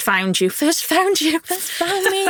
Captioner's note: chuckles